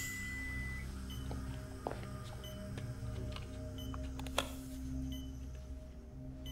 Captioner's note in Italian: suoni intermittenti regolari